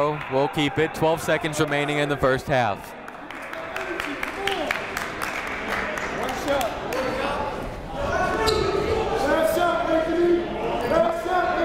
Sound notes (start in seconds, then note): 3.0 clapping; 8.2 shouting